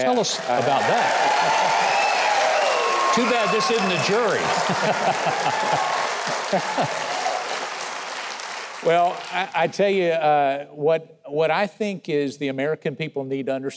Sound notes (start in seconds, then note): 1.2 audience applauding; 4.8 Mark and Mike laughing